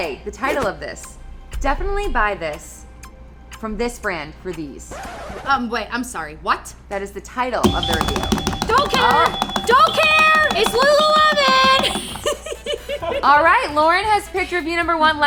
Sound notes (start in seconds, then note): 5.7 record scratch; 7.6 buzzer rings; 12.2 laughs